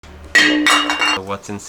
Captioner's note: bottle crashing